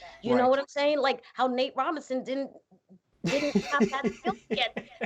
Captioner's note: murmurs